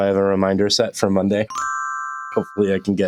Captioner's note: chime